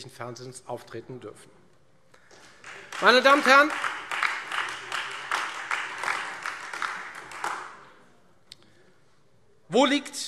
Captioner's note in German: Beifall Freie Demokraten und AfD